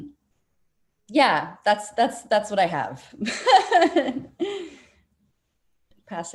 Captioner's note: laughing